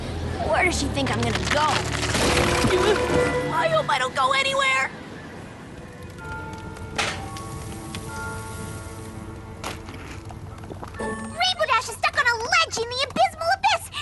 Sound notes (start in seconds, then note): 1.2 crack